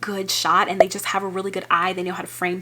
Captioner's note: graphic popping